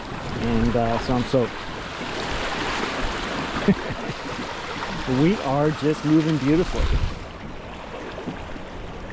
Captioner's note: laughs